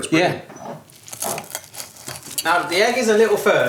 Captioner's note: toast crunching